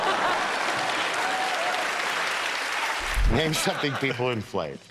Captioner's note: cheers and applause